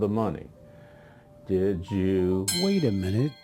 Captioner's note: bell ringing